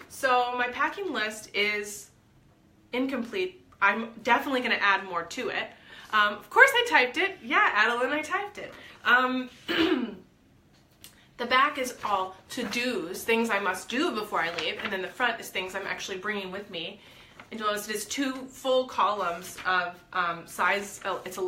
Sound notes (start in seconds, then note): 9.6 clears throat